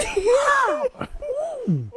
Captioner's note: screaming